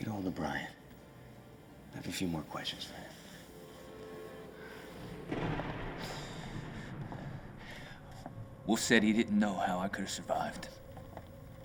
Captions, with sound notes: - Get a hold of Brian. I have a few more questions for him. (soft music continues) (thunder rumbling) - Wolf said he didn't know how I could have survived.